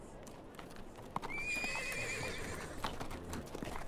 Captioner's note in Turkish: At kişneme sesi; At nalı sesi